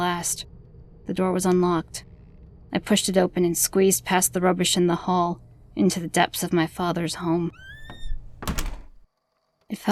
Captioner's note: door shuts, cutting off wind & drone sounds